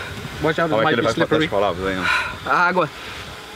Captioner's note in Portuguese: respirando fundo; respirando fundo